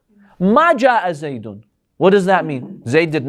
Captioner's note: Arabic